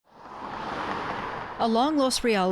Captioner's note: car engine roaring